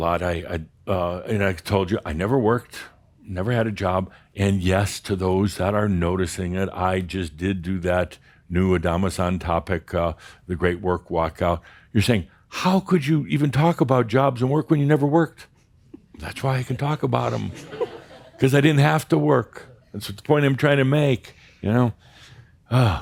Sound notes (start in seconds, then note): 15.9 softly giggling; 15.9 some chuckles